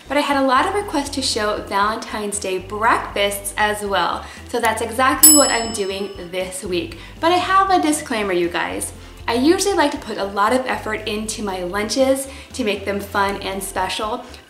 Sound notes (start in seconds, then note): 5.2 ding